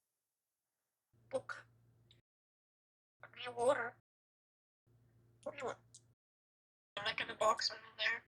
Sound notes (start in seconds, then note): 1.3 parrot talking; 3.2 parrot talking; 5.4 parrot talking; 7.0 parrot talking